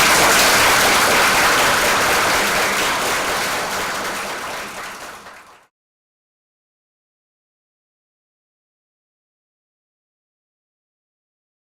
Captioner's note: applause